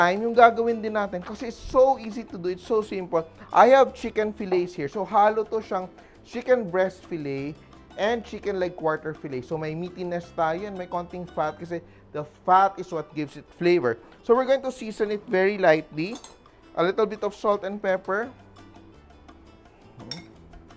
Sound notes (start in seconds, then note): 16.1 clink; 20.0 clink